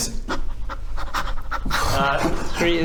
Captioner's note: excited panting